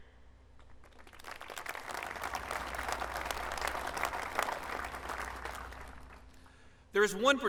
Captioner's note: applause